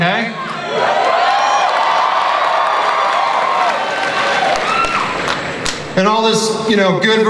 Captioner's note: audience cheering and applause